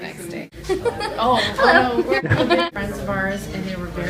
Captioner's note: laughter